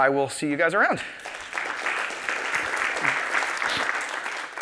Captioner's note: applause